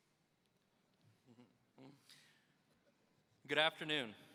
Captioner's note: chuckles